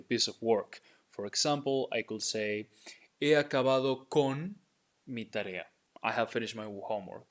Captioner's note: speaking in Spanish